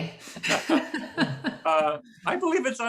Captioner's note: laugh